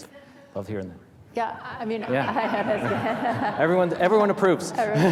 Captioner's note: audience laughing